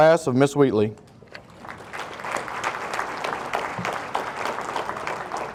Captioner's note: audience applauding